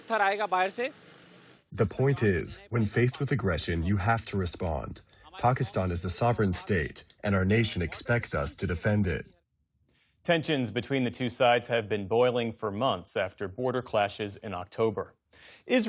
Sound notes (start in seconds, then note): 2.2 through translator